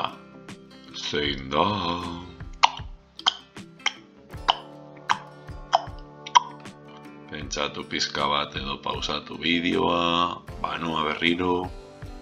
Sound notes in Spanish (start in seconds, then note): 2.4 tic tac tic tac